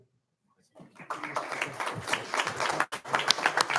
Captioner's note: applauding